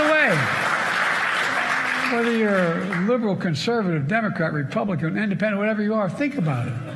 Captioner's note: cheers and applause